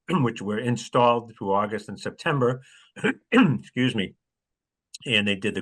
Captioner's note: cough